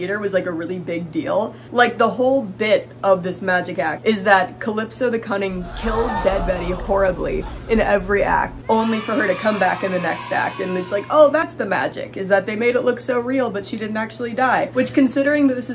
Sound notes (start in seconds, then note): 5.5 crowd cheering; 5.6 crowd gasps